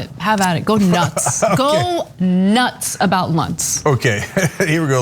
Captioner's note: laugh